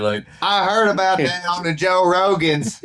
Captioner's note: laughing